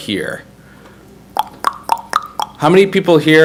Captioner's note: clicks